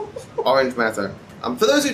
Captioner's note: laughs